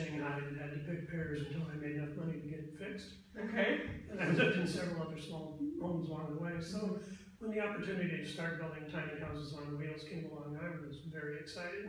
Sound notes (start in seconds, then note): 3.5 laughs